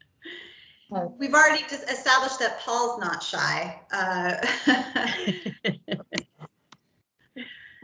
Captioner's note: laughter